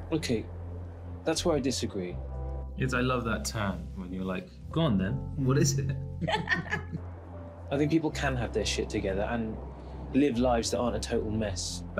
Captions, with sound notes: - Okay. That's where I disagree. I love that turn. When you're like, go on then, what is it? (Ruth laughs) I think people can have their together shit and live lives that aren't a total mess.